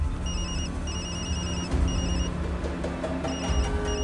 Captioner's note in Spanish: Suena el celular